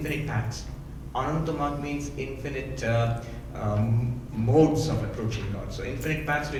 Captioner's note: speaking in foreign language